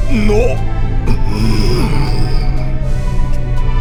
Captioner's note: grumble